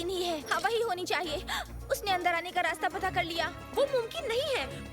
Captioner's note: gasping